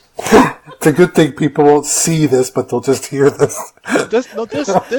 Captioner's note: laughing; hysterical laughing; more laughing